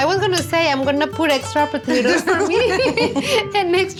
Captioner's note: laughter